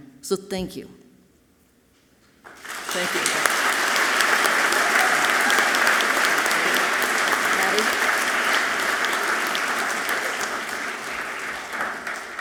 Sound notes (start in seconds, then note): 3.7 audience clapping loudly; 6.3 speaking away from mic; 8.4 audience clapping loudly